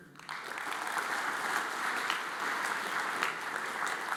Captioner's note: audience applauds